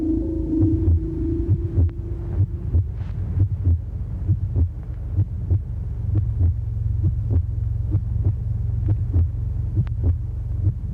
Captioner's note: heartbeat Sounds